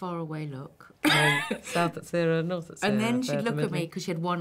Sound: robotic voice

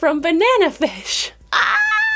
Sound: screaming

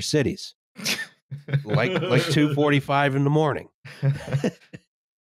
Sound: laughter

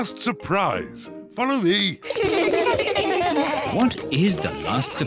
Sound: kids laugh

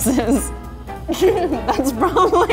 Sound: laughs

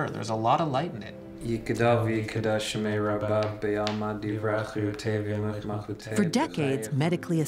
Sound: speaking in Hebrew

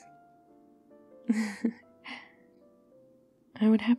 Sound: laughs

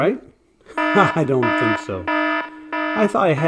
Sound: alarm Bells

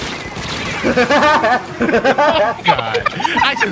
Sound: mimicking Woody Woodpecker's laughter; laughing

